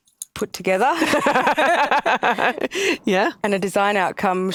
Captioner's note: both laughs